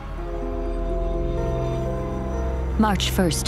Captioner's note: train horn